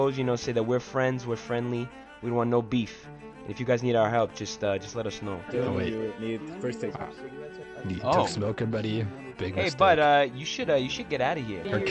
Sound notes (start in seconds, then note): 7.8 chatter